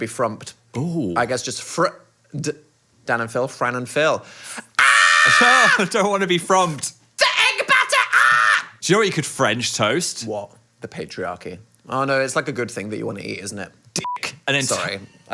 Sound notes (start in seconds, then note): 4.7 screams; 14.0 beep